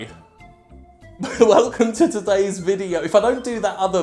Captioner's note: laughs